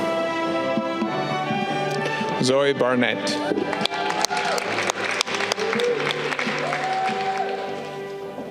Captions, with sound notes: Zoe Barnett. (audience clapping)